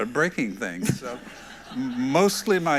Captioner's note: everyone laughs